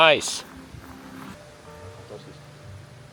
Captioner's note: water rushing